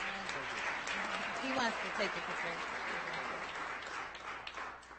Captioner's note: audience applauding